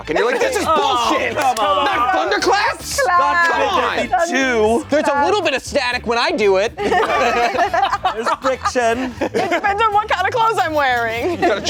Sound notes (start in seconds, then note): 6.8 everyone laughing